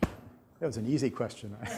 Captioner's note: laughter